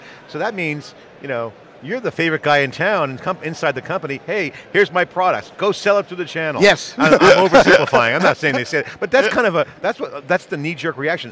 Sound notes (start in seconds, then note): 6.9 laughs